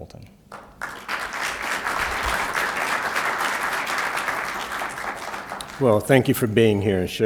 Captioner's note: applause